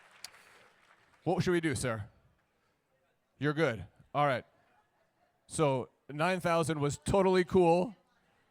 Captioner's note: applause